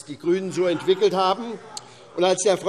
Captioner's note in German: Heiterkeit SPD und Freie Demokraten